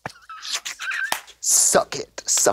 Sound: Trixie guzzles

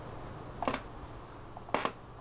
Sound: knocks

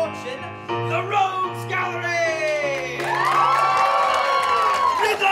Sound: applause

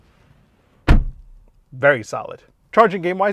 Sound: car door shutting

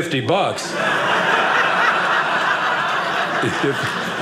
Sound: audience laughing

